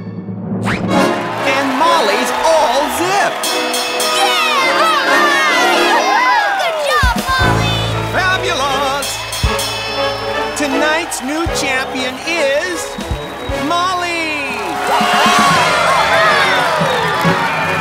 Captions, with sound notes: And Molly's all zipped! [cheering] Good job, Molly! Fabulous! [bell rings] Tonight's new champion is... Molly! [cheering]